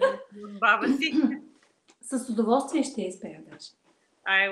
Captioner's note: foreign Language followed by English Interpreter